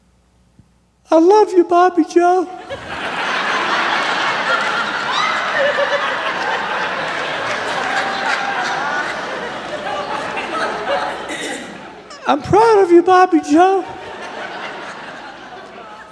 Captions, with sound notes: "I love you, Bobby Joe!" [laughter] [ raucous laughter ] "I'm proud of you, Bobby Joe!" [laughter]